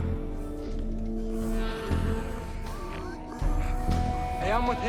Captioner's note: snarling